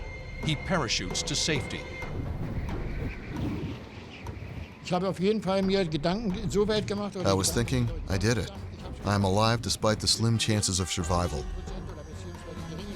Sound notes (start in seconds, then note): 2.0 wind gushing; 5.5 speaking german